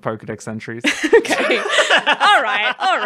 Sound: laughter; laughing

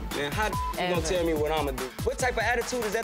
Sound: beep

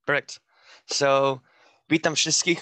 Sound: speaking foreign language

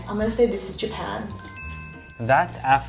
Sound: bell sound

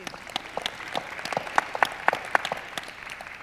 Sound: audience applauds

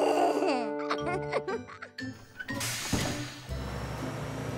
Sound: Kevin giggling

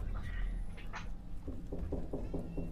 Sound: knocking on a door

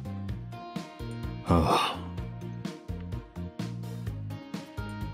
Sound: sigh

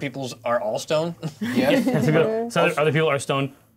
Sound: co-hosts laughing

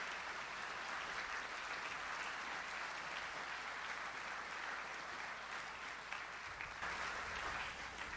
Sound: audience applauds

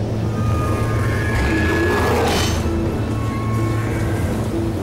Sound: machines whirring

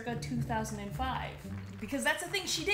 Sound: applause

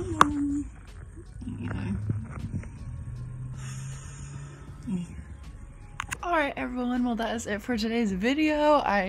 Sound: deep breath

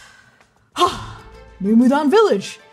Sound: happy exhale

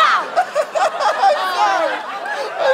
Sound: whimpering

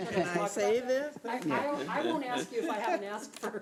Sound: people laughing

